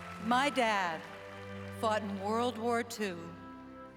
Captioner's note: applause